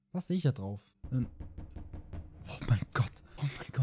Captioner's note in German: klopfen